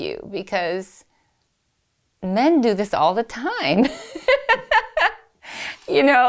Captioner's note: laughs